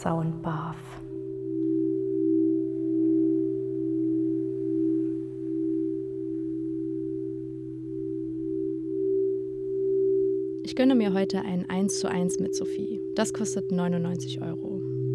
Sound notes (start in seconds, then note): 4.2 clear, ethereal sound